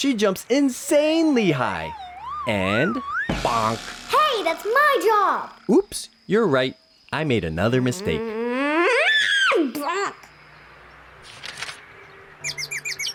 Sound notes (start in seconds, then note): 7.6 frustrated noise